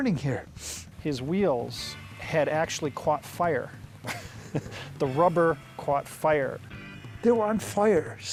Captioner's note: sniff; chuckles